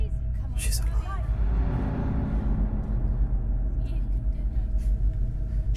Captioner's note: alien transmission